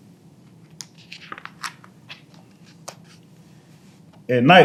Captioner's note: pages rustling